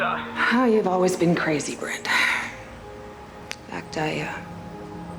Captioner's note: sighs